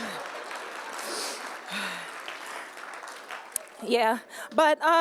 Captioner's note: laughter/applause